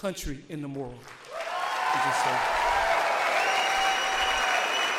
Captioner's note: audience applauds